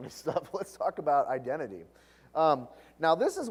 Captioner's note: laugh